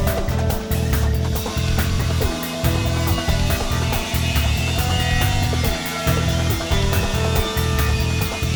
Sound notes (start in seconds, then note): 1.3 machinery whirring